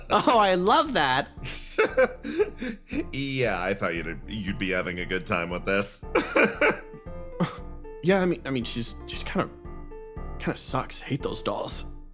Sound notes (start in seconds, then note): 1.6 laugh; 6.2 laugh